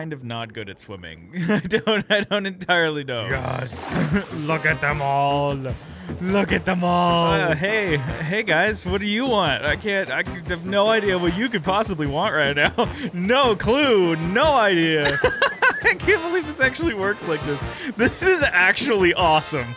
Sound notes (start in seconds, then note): 14.8 laughs